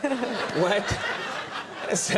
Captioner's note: audience laughs